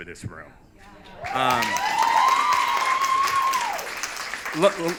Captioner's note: audience cheers